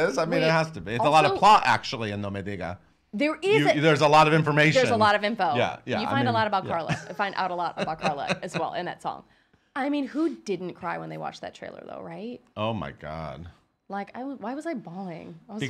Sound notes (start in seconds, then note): 2.5 foreign language